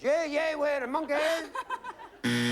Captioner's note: buzzer